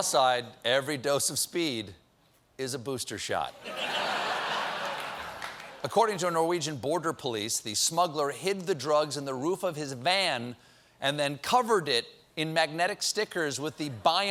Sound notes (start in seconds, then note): 3.6 laughter